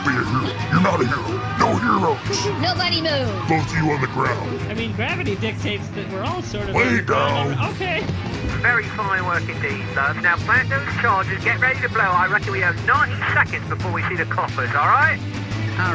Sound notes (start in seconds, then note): 0.1 crowd panicking, citizens whimpering in fear; 4.9 hesitantly; 9.0 over comms